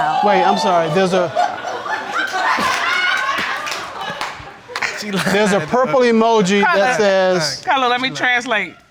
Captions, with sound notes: Wait, I'm sorry there's a... (ALL LAUGHING AND WHOOPING) She lying. There's a purple emoji that says... Cutler. Cutler, let me translate.